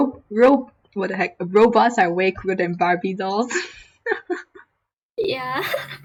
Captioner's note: laughing; laughs